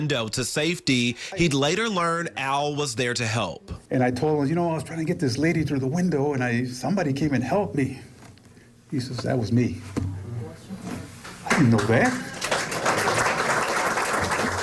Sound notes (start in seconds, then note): 11.4 applause